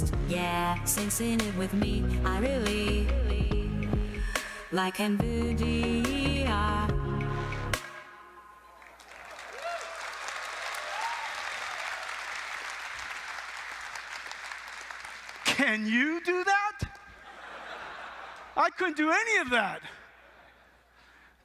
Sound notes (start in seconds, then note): 8.7 applause